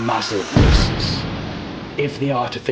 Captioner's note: bomb exploding